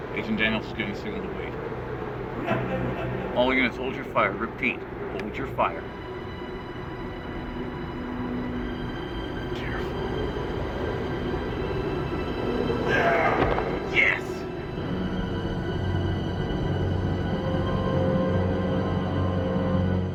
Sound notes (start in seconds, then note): 11.2 suspenseful music; 12.6 groaning